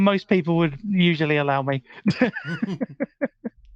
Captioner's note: laughing